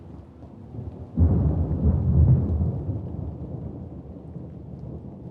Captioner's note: thunder rumbling